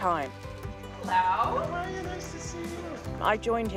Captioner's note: applause